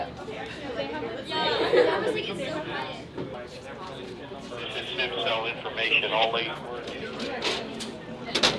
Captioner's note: people talking around room and chatter from walkie talkies